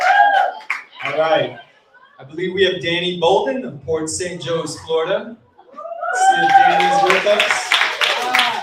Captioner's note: cheering and applauding